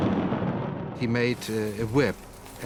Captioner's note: thunder crashing; clinking